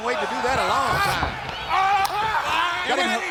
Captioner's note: footsteps plodding; hands thudding